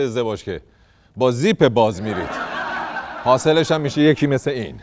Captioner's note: laughter